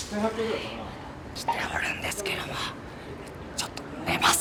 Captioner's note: loud whisper